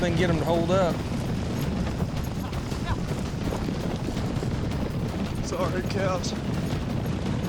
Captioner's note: hoofbeats